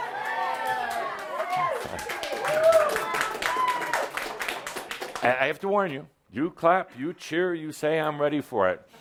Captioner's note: audience responds “Yes!” and some applause